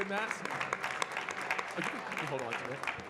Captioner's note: audience clapping